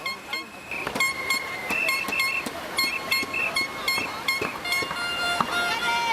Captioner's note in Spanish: Bocinas, silbatos